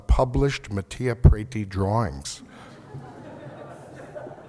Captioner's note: laughter